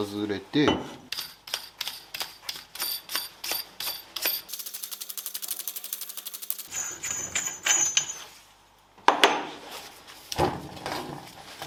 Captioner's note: working sound